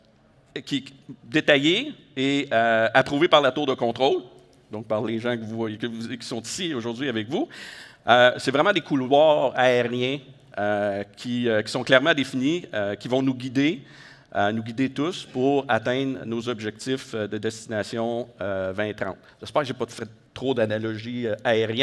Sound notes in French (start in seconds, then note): none